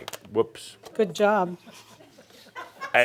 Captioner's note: a few chuckles